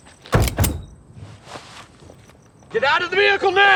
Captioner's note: gun clicking